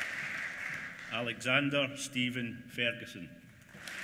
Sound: applause

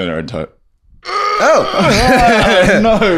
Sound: groaning

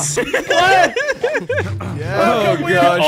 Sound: all laughing

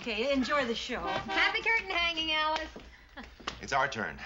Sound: honking

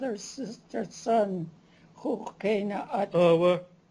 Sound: non-english; non-english speech

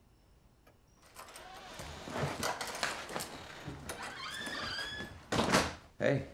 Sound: hinges squeaking; latch rattling; door thuds

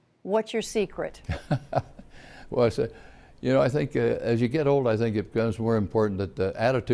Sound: laughter

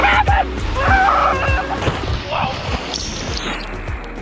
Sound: yelling

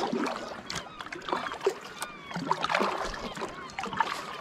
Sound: water lapping

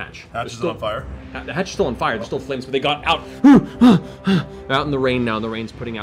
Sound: panting

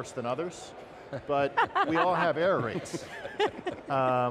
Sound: hosts chuckling

